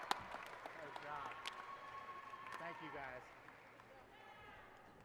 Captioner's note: applause and cheering